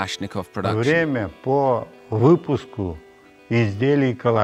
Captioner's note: Russian spoken audio